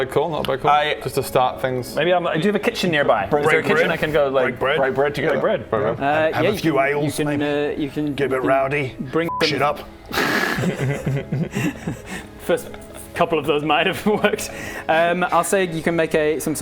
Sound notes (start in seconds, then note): 10.1 master strategist laughter